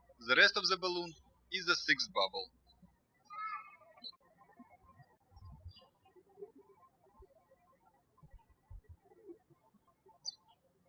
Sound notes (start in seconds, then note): 3.7 bird chirping